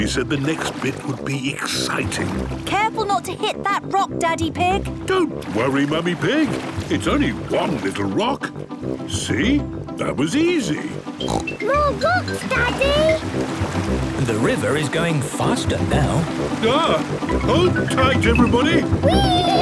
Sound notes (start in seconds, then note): 11.2 snorts